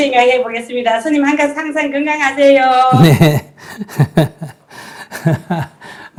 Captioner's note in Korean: 웃음